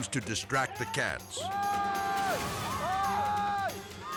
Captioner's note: screaming; suspenseful music